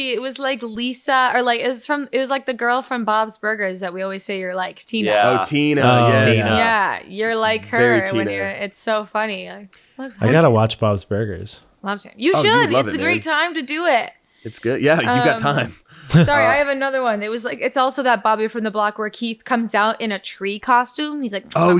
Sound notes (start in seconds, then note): 14.8 chuckles